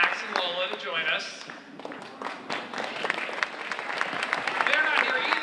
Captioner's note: audience applauding